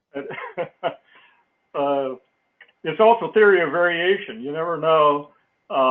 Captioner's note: laugh